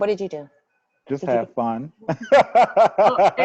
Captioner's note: laughs